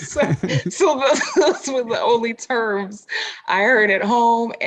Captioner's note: laughs